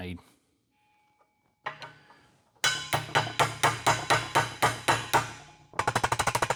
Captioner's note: clanging